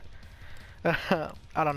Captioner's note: more nervous chuckling